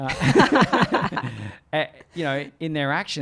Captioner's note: both laugh